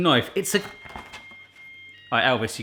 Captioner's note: beeping